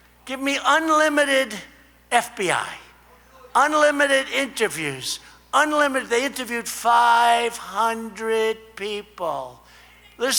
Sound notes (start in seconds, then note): none